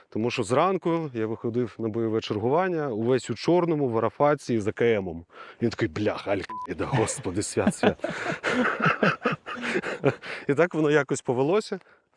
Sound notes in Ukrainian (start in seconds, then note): 6.8 сміються